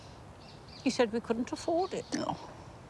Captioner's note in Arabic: يسخر